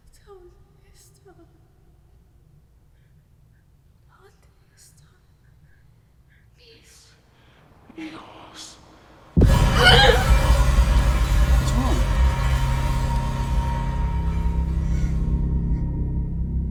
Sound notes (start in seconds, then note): 0.1 woman speaking foreign language; 9.3 Lorraine gasping; 9.4 intense music